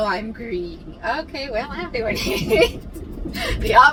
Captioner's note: laughs